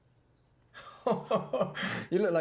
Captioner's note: Larry chuckling